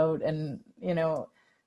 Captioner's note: none